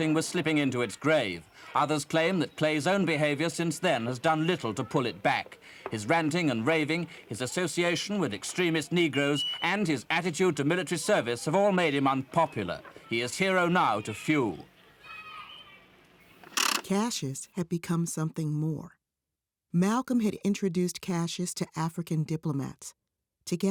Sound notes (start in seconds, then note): 14.9 children yelling; 14.9 reel whirring